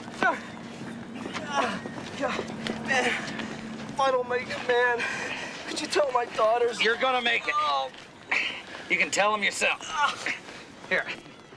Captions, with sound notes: (groans) Man, if I don't make it, man, could you tell my daughters... You're going to make it. You can tell them yourself. Here, give me that.